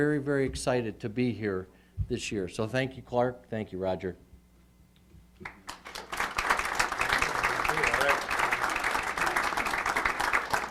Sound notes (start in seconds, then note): 8.0 applause